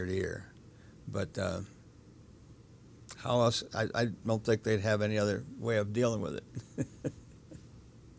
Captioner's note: chuckles